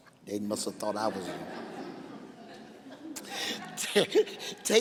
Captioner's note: laughing